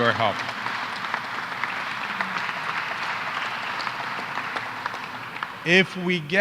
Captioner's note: applause